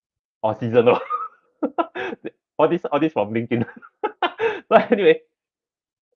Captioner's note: laughs